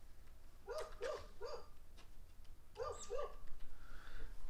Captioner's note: dog barking